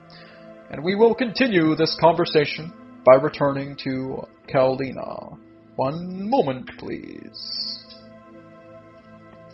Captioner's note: deep breathing